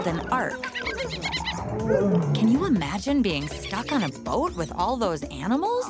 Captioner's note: animal noises